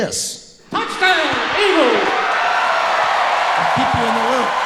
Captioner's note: voice On PA